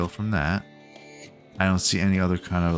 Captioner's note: silence